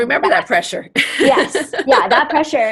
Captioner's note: laughs